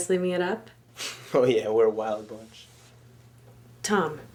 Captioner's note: sarcastic sigh